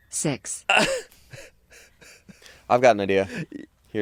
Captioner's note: crew members laughing; laughing